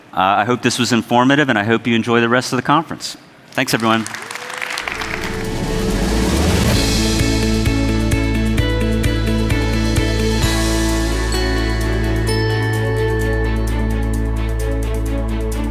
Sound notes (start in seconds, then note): 3.6 audience applauds; 6.3 upbeat music